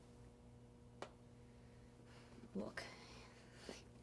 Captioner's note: none